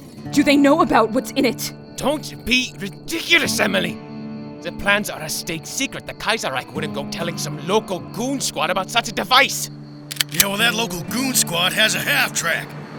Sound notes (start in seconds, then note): none